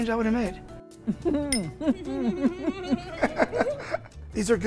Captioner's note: murmuring and laughing